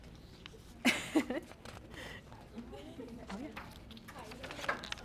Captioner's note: group chattering